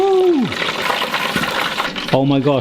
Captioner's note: oil sizzling